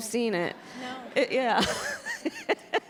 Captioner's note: laughter; laughs